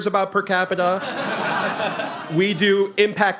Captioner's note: laughter